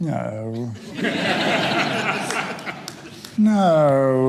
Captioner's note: audience laughter